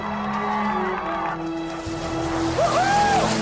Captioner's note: crowd cheering